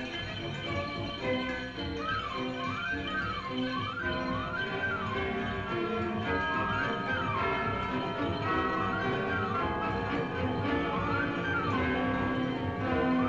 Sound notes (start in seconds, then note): 4.3 church bells ringing; 4.7 upbeat music